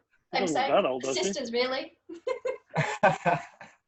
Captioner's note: laughs